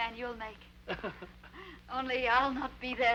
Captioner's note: Joseph chuckles